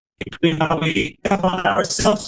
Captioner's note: voice robotting